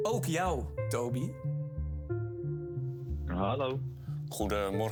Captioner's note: put‑on voice